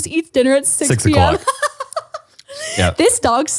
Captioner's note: laughing